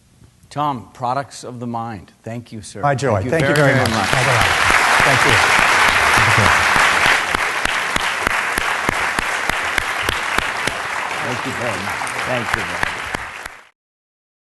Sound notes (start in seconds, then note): 5.4 applause